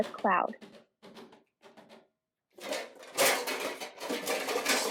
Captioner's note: hoof prints fading off… silence… then sounds of metal clanging